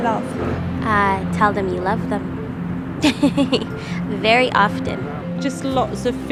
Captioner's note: chuckles softly